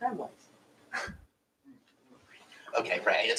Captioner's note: chuckles